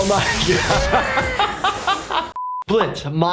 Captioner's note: laughing